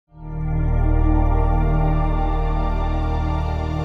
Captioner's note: swelling tone